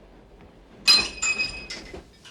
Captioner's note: glass clinking